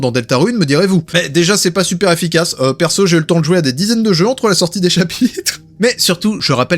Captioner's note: laughs